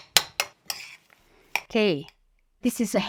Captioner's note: spoon banging; spoon scraping